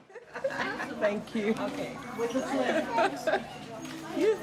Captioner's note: women laughing